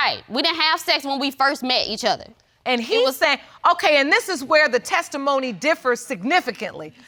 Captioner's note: none